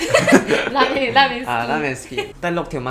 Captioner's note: laugh